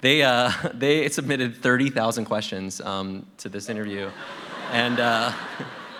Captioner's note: laughter